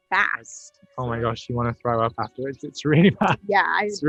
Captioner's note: laughs